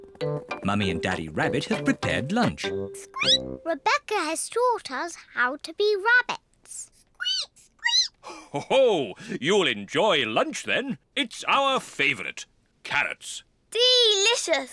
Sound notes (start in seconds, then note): 3.2 squeaks; 7.5 peppa and george squeak; 9.3 laughs